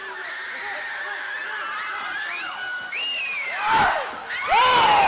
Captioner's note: background screaming. Bedlam increasing; Mina screaming